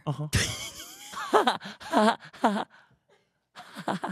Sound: both laughing

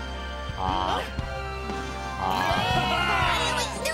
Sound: cheering

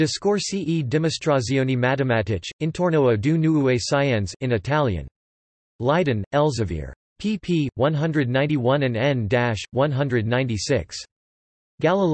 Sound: in Italian

